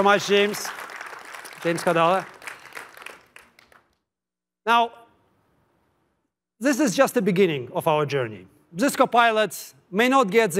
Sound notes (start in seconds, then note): 2.2 applause